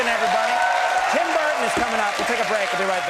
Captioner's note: public clap and cheer